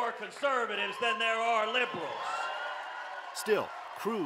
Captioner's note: cheers and applause